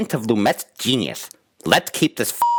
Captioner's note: beep